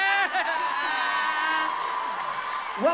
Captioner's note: crowd cheers